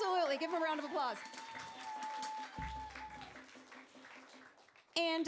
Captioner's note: applause